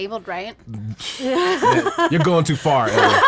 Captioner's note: woman laughs